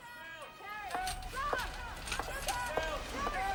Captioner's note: staff shouting